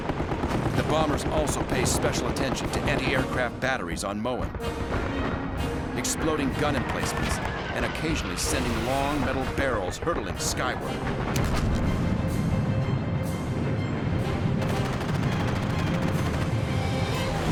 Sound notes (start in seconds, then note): 10.8 explosions; 14.5 gunfire